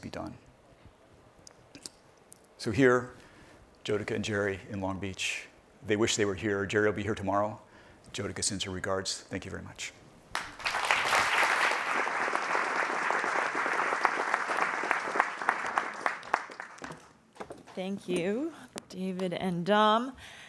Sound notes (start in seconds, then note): 10.3 applauding